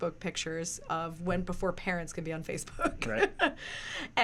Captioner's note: laughs